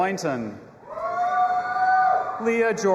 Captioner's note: audience applauding and cheering